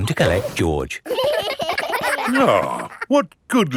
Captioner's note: giggling